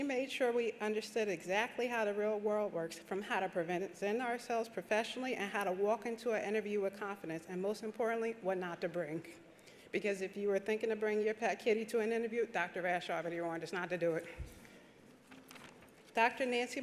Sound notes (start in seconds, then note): none